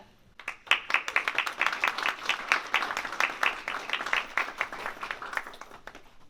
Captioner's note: applause